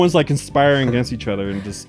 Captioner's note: chuckles